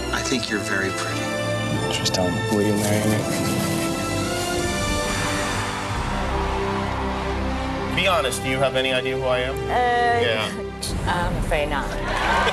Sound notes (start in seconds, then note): 5.2 cheering; 12.3 laughing